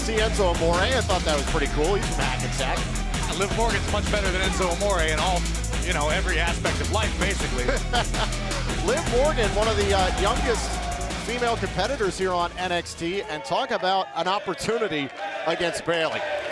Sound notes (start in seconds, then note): 9.2 laughter